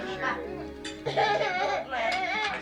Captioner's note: toddler crying